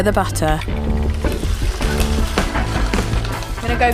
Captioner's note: pan sizzles